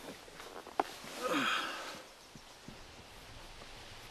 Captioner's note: sighs